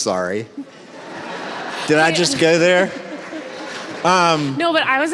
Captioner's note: audience laughs